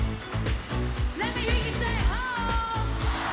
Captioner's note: crowd